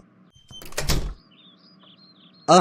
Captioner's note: door shuts